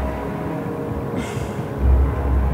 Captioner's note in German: Sie seufzt